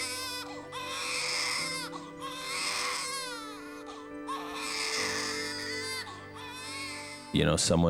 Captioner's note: baby cries